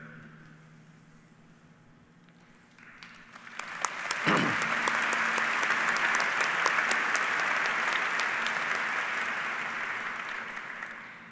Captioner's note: applause